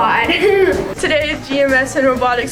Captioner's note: laughing